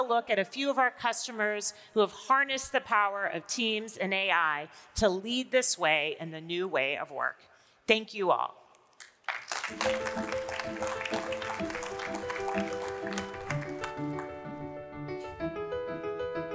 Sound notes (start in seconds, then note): 9.2 audience applauding; 9.6 upbeat music